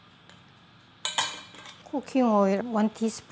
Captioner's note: utensil clinking